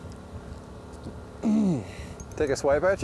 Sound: grunts

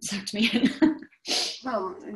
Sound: chuckles

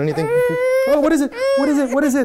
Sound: cries

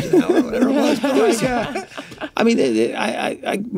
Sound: all laugh

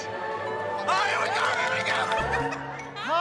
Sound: laughs

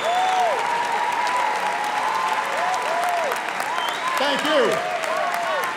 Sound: applause

